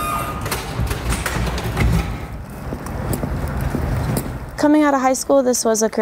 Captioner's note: gurney wheels rattling